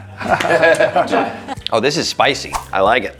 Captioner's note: group laughs